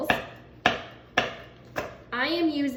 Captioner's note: knife chopping